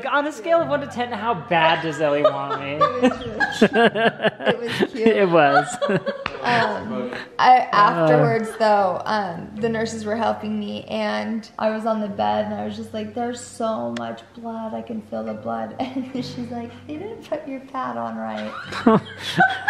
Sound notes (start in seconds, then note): 1.8 laughing